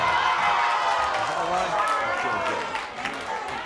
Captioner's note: crowd yelling